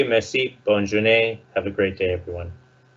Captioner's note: speaks foreign language